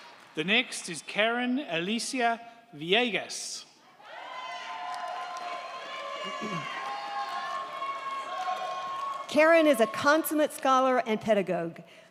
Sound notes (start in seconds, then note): 4.0 crowd cheering; 4.4 crowd clapping